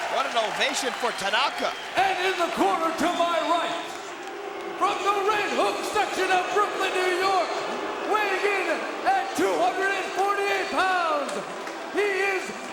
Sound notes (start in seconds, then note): 4.1 crowd booing